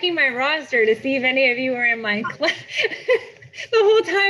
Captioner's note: laughs